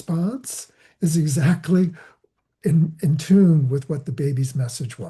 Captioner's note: laughing